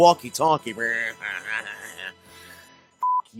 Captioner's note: nasal muttering